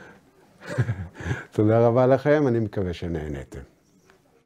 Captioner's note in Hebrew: צוחק